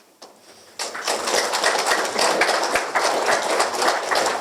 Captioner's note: applause